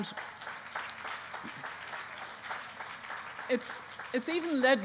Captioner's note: applause